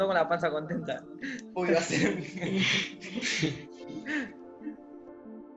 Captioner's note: laughing